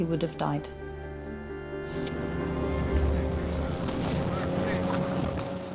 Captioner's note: uplifting instrumental music; lifeboat engine whirring